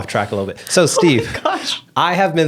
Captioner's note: laughs